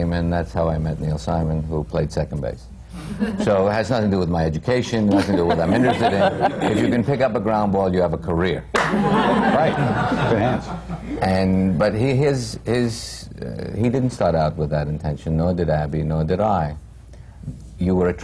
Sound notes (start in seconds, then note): 8.8 laughter